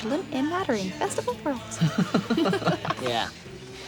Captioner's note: laughing